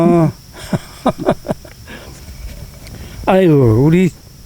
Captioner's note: laughs